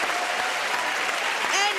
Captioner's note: cheering and applause